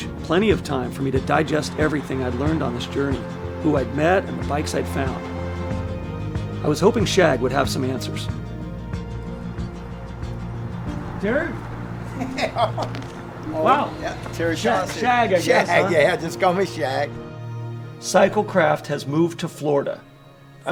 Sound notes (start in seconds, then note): 11.6 laughs